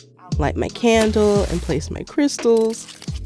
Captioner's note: soundbite of match strike